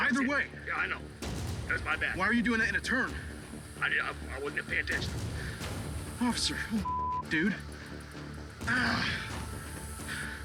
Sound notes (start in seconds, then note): 6.8 beep; 8.6 groans